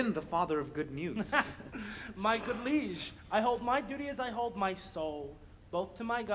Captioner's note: laughs